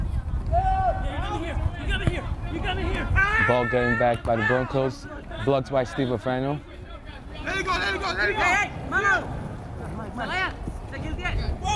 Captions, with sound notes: The ball gained back by the Broncos, blocked by Steve Huerfano. (field chatter)